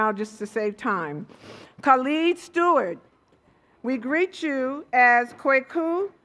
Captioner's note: none